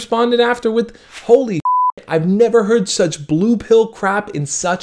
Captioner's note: beep